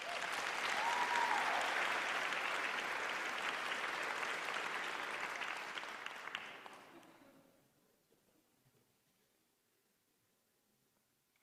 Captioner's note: applause